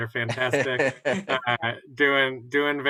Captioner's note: laughter